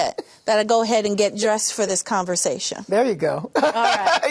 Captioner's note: laughter